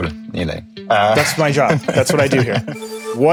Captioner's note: laughs